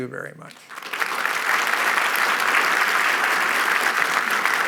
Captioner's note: applause